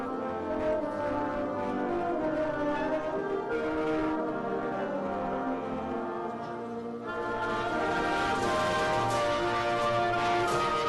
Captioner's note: applause